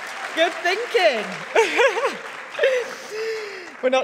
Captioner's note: audience applauding; chuckles